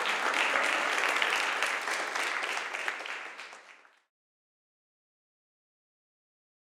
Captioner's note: applause